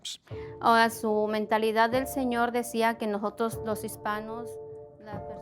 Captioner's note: speaking Spanish